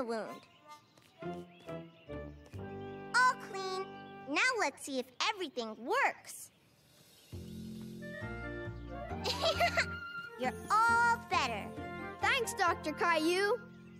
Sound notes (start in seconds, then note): 9.2 laughing